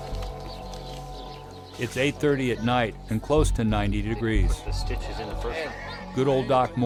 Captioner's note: voiceover